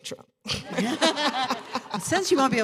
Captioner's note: laughter